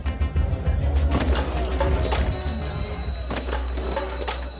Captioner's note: dishes clattering; bell ringing; skateboard rolling